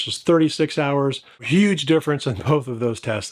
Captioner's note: laughs